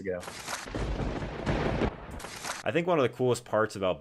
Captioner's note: thunder rumbling